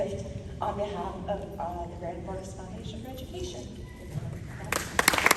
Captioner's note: applause